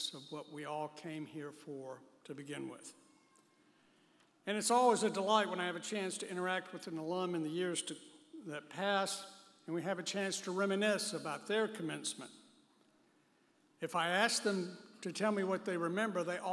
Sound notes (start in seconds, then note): none